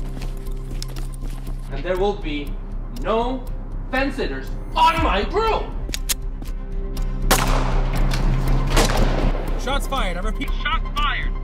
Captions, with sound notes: And there will be no fence sitters ON MY CREW! (gun cocking) (gunshot) - Shots fired, I repeat, shots fired.